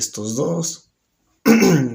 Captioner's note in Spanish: Se aclara la garganta